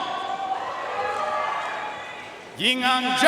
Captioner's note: audience cheering and applauding